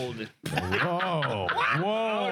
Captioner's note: laughing